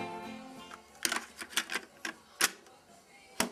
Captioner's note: tape clicking